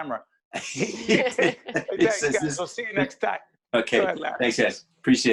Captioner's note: laughing